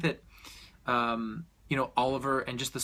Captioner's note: deep breath